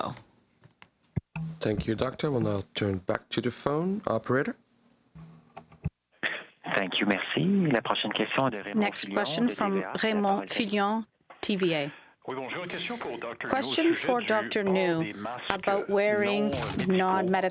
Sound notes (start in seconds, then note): 11.3 speaking french